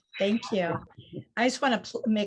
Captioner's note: laughs